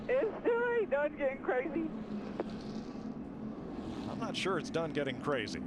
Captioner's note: laughter